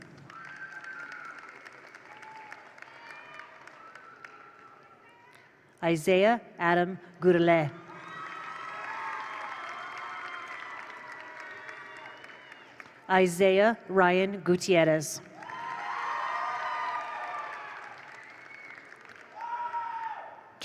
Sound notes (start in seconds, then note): 0.0 attendees applaud; 0.0 attendees cheer; 7.8 attendees cheer; 7.9 attendees applaud; 15.3 attendees applaud; 15.3 attendees cheer